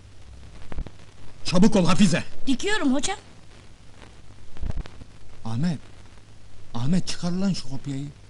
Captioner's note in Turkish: none